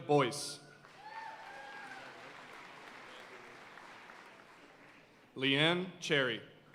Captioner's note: audience cheering and applauding